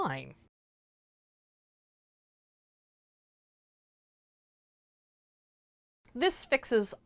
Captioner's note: no Sound Present